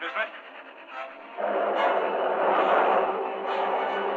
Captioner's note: engine rumbling